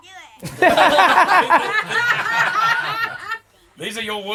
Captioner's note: laughing